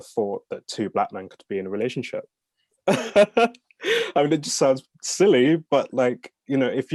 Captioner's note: laughs